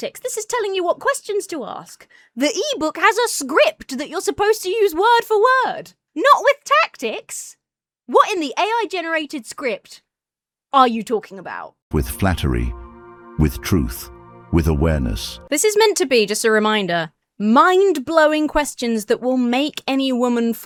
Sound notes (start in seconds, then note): 12.1 AI Voice